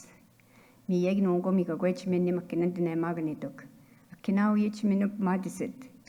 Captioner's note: speaking in Anishinaabemowin